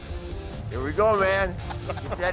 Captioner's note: laughter